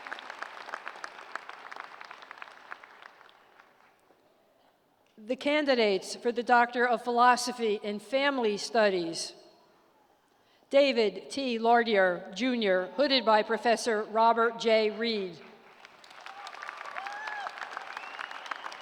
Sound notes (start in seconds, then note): 3.0 applause